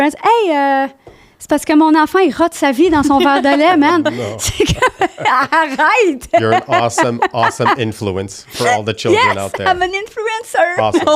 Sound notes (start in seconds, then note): 0.3 in french; 2.9 laughing; 5.2 in french